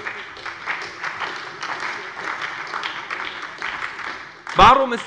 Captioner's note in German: Beifall bei der SPD